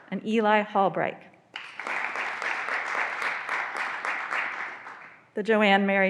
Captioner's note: graduands applauding